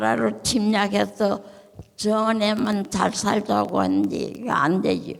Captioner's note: speaking in foreign language